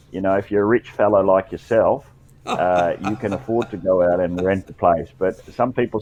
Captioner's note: laughter